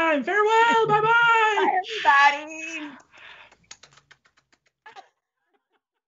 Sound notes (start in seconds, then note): 2.9 kissing sounds